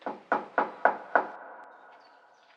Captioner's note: knocks